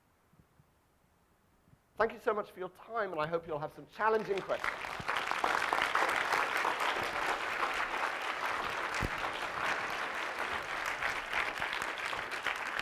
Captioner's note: audience clapping